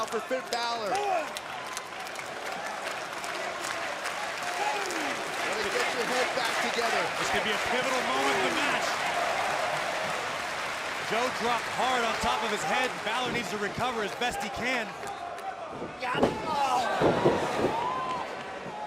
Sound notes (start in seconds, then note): 7.1 crowd cheering; 8.0 crowd chatter